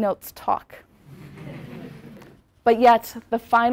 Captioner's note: laugh